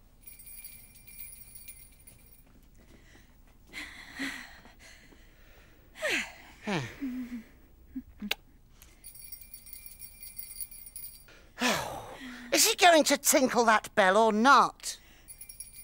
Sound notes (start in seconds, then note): 0.0 bell jingles; 6.0 sighs; 8.9 bell faintly jingles; 15.2 bell faintly jingles